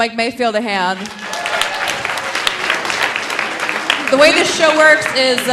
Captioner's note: audience applauding; audience cheering